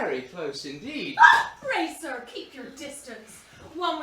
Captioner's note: squeals